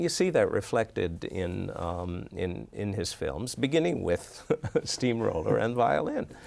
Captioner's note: laughs